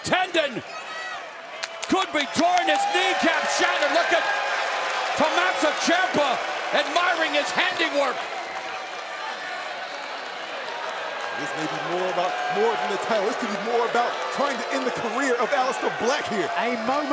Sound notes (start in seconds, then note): 11.8 cheers and applause